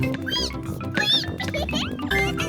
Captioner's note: squeaking